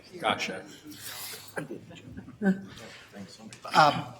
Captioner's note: laughing